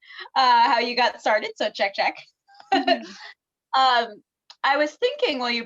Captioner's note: laughs